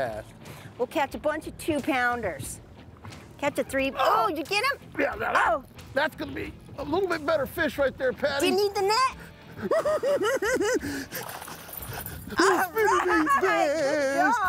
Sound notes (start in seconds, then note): 10.7 cackling